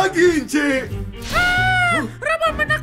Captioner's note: screaming